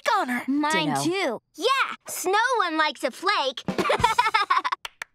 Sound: laughing

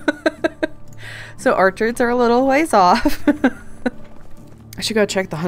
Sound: laughs; laughing

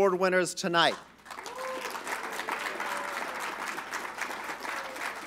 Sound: applause

